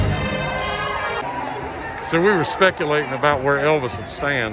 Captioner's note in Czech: Potlesk